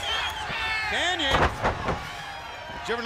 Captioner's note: crowd chatter